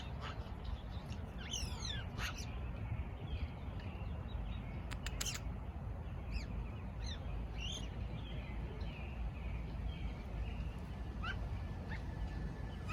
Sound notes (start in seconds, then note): 0.0 magpie chirping, nature sounds